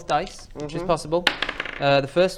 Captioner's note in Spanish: tirada de dados